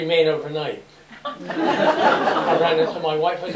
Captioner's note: laughter